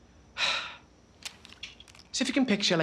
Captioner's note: sighs